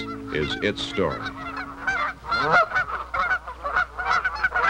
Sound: geese honking

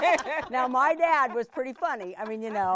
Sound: all laughing

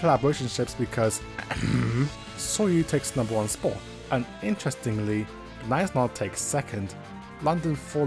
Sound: ahem

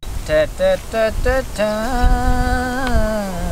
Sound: humming

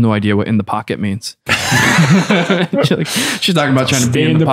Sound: laughter

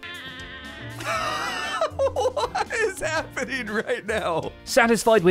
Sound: laughs; loud goat scream; confused laughter

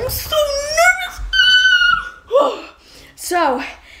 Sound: high pitched noise

